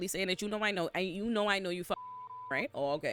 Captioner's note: beep